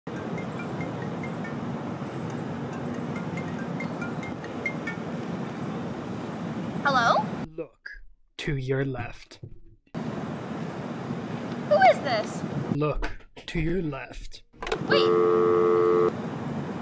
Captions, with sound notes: *phone rings* Hello? Look to your left Who is this? Look to your left